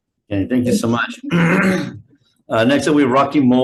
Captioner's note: clears throat